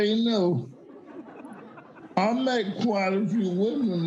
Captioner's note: audience laughing